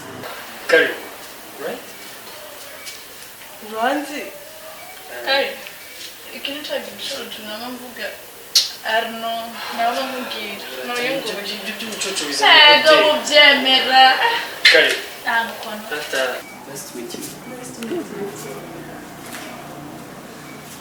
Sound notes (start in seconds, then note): 13.5 jokingly